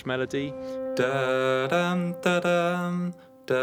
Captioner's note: hums melody